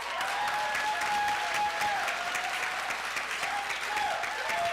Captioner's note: applause